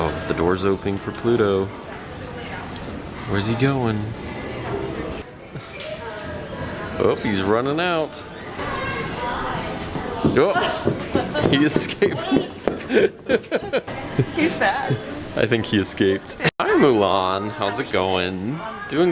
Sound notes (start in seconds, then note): 12.8 laughing